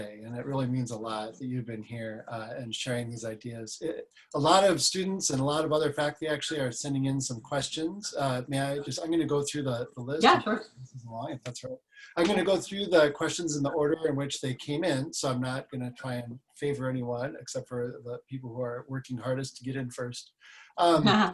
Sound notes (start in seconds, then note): 10.9 mumbles